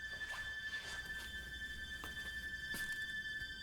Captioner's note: footsteps